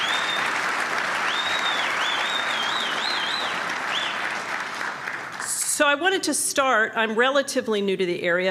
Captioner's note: applause